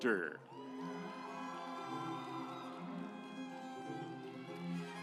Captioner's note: audience applauds